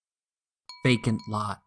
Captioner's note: chime sound